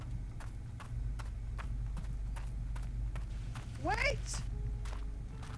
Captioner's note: footsteps approaching